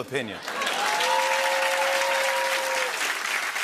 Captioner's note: cheering and applause